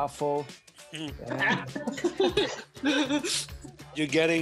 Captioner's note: laughter